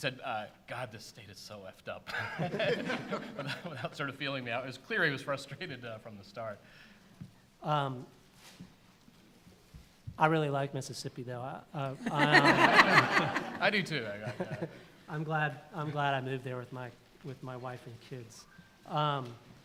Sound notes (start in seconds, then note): 2.0 laughter; 2.1 laughs; 12.0 laughter